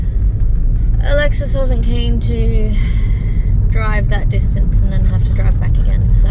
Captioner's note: sounding slightly miffed; exhales